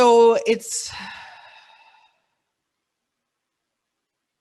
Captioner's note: long sigh